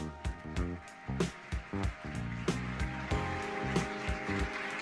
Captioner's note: applause